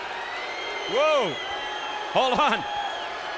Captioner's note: crowd cheering